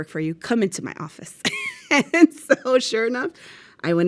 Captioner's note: laughs